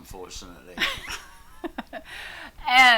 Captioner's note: both laugh